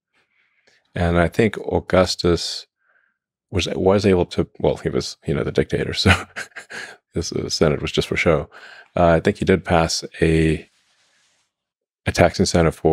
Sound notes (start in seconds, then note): 6.1 laughs